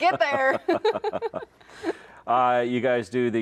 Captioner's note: laugh